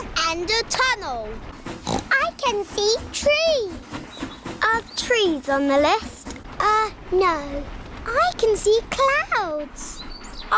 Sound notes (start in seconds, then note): 1.8 oinks